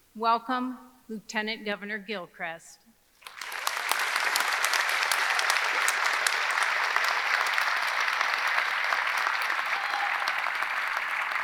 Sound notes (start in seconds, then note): 3.2 audience applauding; 3.2 audience cheering